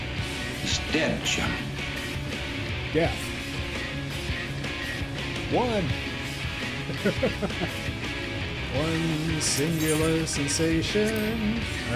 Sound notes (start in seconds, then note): 6.6 laugh